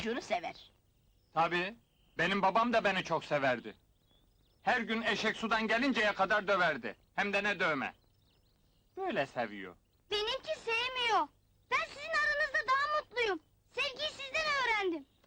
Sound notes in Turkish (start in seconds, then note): none